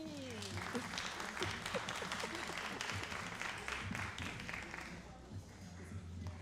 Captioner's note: all applauding and cheering